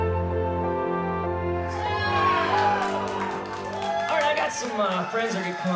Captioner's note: crowd applauding